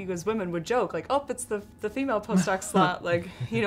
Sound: laughter

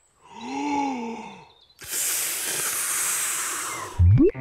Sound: takes big breath and blows

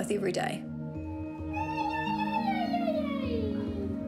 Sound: exclaims, chatters

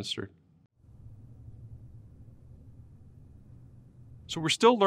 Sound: silence

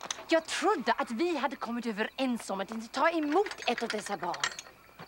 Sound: speaking in foreign language

